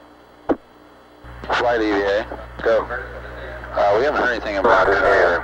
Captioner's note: mission Control Audio